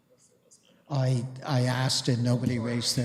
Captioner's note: clerk whispering